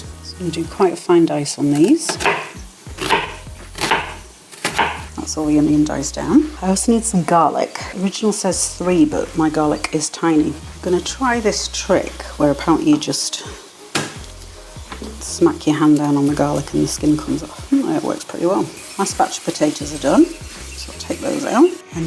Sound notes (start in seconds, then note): 4.6 chop chop chop; 17.5 bang